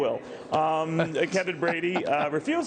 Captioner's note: laughter